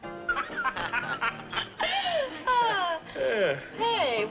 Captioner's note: patrons laughing